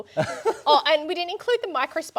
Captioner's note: laughing